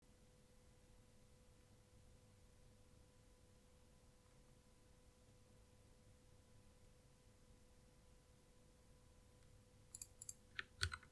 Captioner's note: alluring Typing Sounds